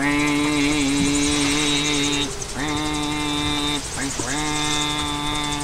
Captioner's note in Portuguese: som da bomba de agua